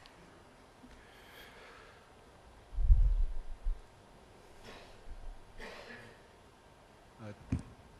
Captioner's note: silence